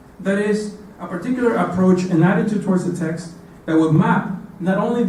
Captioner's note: none